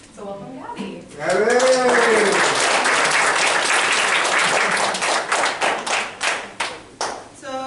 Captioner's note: applause